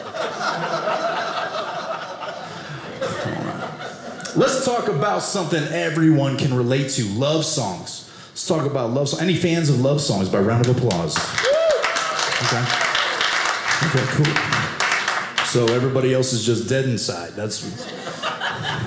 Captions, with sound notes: (audience laughing) Let's talk about something everyone can relate to-- love songs. Let's talk about love songs. Any fans of love songs? By round of applause. (audience applauding) OK, cool. So everybody else is just dead inside. That's.